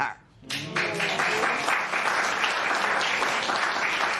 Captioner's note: applause